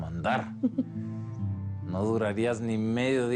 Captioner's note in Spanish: Risas